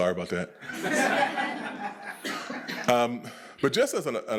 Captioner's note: attendees laughing